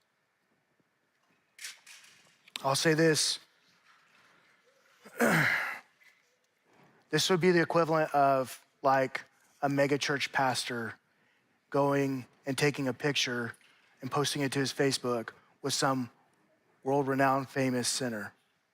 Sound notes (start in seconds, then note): 5.1 clears throat